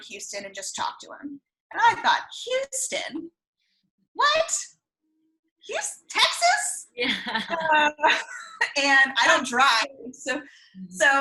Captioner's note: laughs